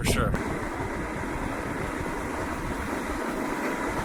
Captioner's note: wind blowing